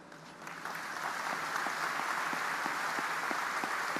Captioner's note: audience applauding